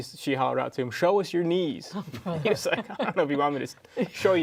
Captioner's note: groups laughs